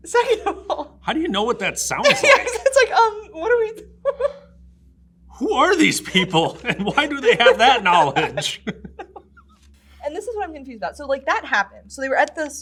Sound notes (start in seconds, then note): 8.4 laughs